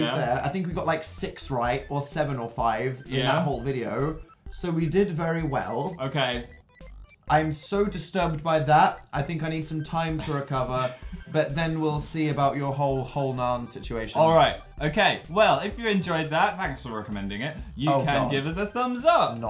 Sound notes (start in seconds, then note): 10.8 giggles